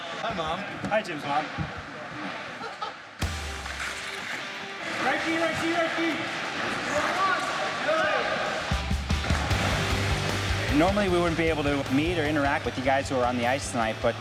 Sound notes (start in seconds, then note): 2.4 laughs; 3.6 upbeat rock music; 4.9 mixed shouting